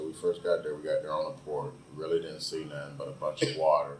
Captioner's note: coughs